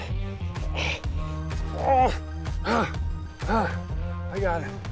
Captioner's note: grunts and breathes heavily